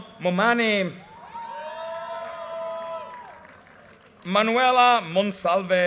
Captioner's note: audience cheers and applause